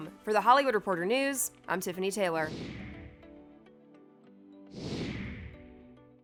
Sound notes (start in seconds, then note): 2.2 upbeat music; 2.6 whooshing